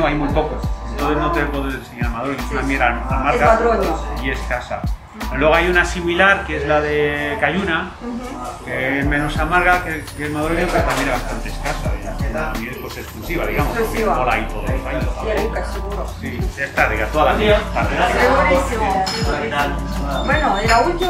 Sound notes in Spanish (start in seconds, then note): 7.8 Voces de trasfondo; 14.9 Voces en la tienda